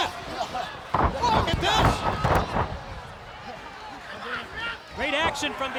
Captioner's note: body thudding